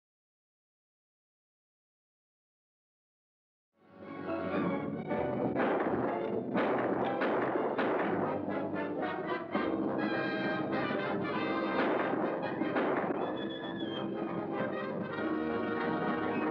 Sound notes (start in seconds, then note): 4.0 dramatic music; 6.6 pistol firing; 8.6 dramatic music; 11.7 gunshots; 13.6 dramatic music